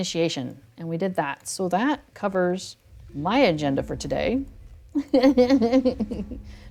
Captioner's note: laughs